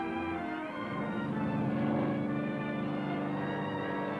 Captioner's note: aircraft droning